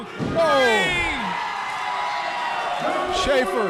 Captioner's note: audience cheering